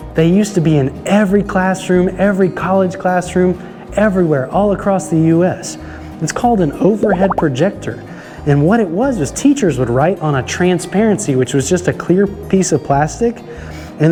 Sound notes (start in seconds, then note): 7.1 letters popping